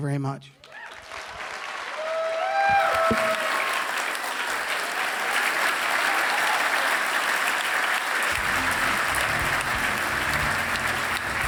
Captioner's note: applause